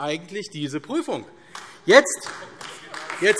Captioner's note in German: Beifall AfD